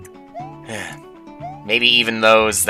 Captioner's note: sigh